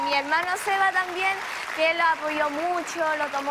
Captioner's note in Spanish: Aplausos